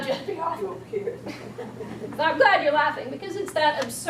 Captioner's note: audience chuckling